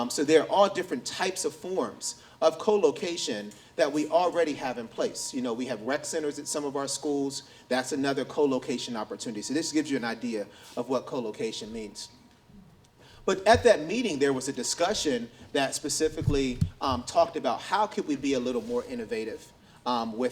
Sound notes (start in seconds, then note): none